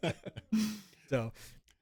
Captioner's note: laughter